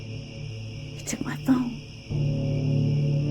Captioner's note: crickets